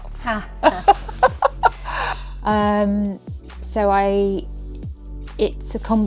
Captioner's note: laughter